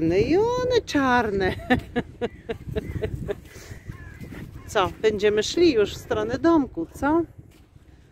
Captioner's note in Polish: śmiech